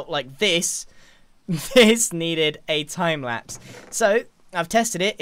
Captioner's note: laughs